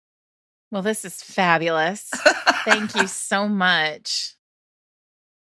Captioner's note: Ms. Bev laughs